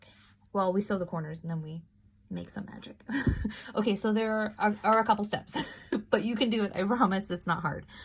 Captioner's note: laughter